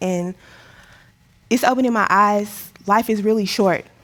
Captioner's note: inhales deeply